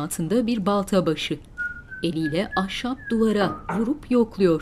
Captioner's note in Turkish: Islık sesi